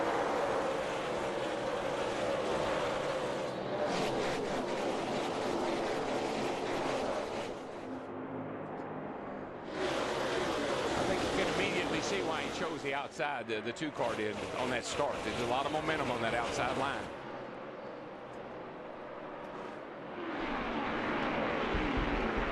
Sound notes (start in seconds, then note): 4.2 engines roar